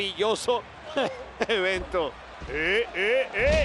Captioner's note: laugh